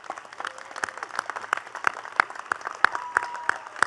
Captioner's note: attendees clapping